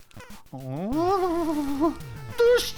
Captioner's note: foolish giggle